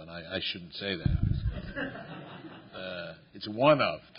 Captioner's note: laughter